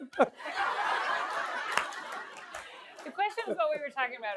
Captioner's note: laughter